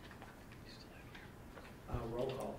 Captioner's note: whispers